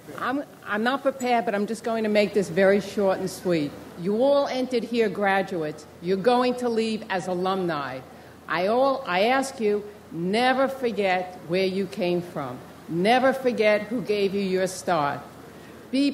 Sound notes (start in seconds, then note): none